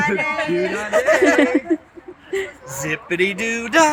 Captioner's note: people laugh